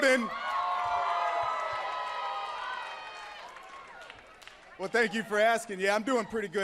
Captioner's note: crowd cheering